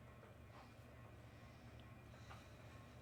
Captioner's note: none